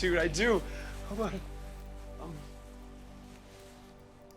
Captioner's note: stutters